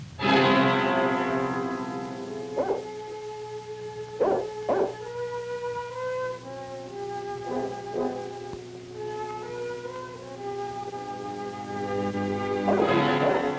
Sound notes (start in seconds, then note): 0.2 dramatic instrumental music; 2.5 dog barking